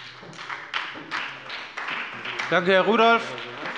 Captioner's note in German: Beifall bei der SPD